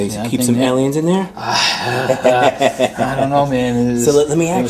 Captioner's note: both laughing